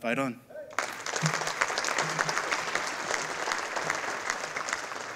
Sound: audience applauding

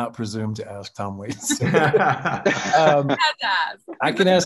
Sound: laughing loudly

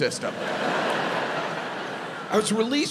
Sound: audience laughs

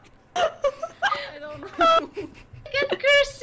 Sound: laughs

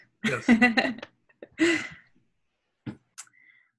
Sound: laughs

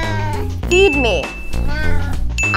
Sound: meow

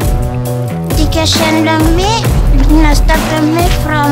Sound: foreign language

